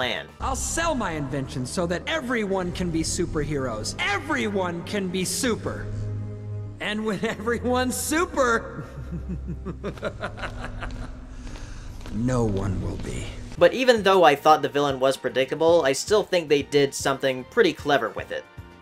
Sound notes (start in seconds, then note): 8.7 super evil laugh >